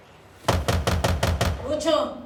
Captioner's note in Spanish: golpes en la puerta